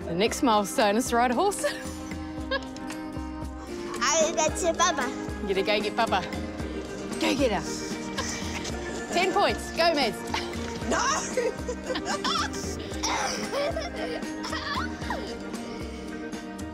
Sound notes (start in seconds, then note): 2.4 laughs; 13.0 laughs